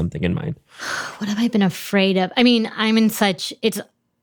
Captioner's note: sighs